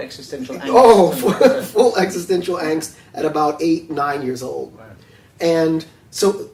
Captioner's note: laughs